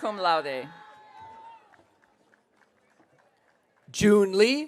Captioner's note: audience cheering